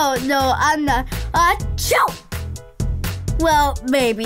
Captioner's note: host sneezing